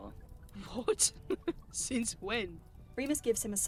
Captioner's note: James laughs